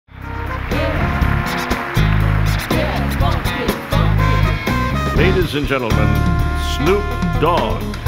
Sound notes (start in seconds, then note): 0.2 audience applauds; 1.9 vinyl record scratches